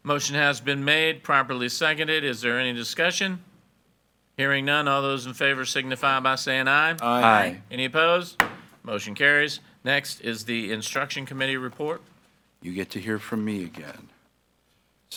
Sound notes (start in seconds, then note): 8.4 gavel bangs